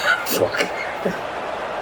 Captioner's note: laugh